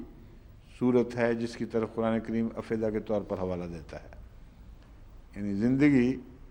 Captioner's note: Arabic; Arabic